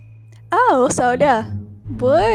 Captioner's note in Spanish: Español